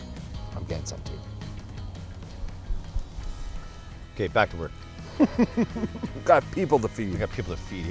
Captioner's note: laughter